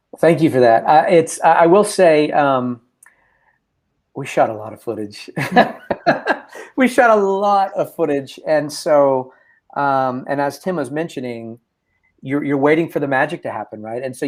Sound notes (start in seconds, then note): 5.4 laughs